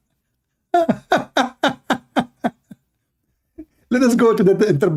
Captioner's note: Ketawa